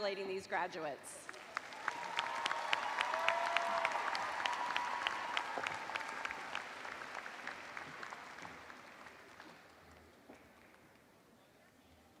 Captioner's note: cheers and applause